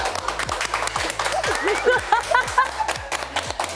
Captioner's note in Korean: 일동 박수